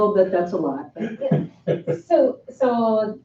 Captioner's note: chuckling